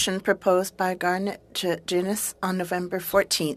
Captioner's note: speaking french